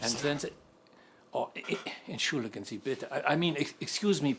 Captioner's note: speaks in German